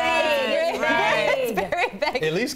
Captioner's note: laughter